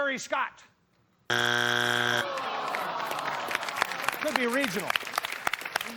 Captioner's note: buzzer sounds